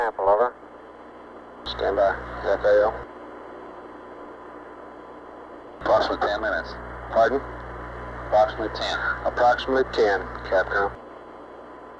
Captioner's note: mission Control Audio